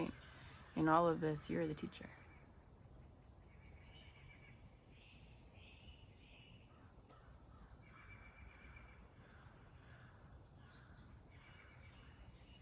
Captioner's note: birds chirping